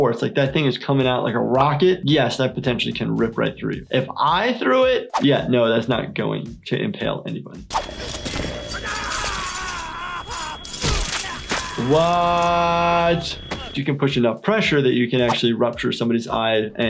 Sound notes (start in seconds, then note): 8.7 security guard screaming; 8.8 metal grinding